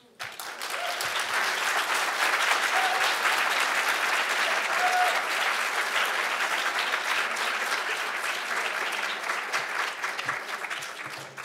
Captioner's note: applauds